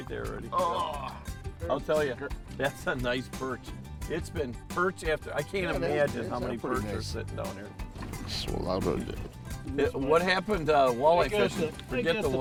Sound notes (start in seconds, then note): 0.6 grunting